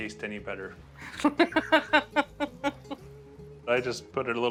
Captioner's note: laughs